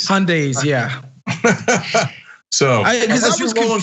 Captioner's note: laugh